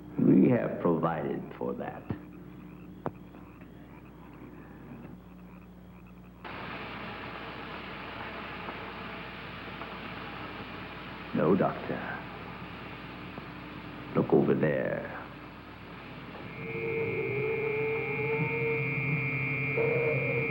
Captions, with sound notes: - We have provided for that. (electricity crackling) No, Doctor. Look over there. (eerie music)